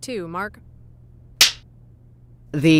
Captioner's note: clapper